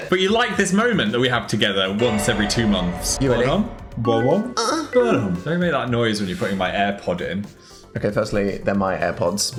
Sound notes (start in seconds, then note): 4.4 Dan whines